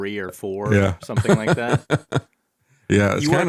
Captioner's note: laughing